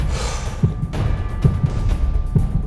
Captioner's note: sighs